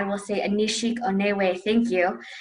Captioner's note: speaking Native language